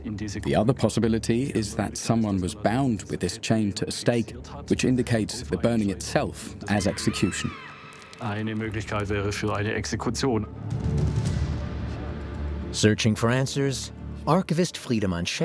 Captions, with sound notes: The other possibility is that someone was bound with this chain to a stake, which indicates the burning itself as execution. (screams) Searching for answers, archivist Friedeman Scheck